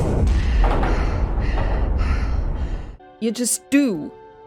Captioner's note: rattling sounds